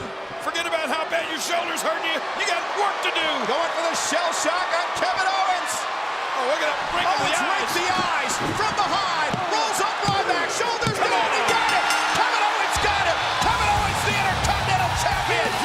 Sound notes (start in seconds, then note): 11.3 bell ringing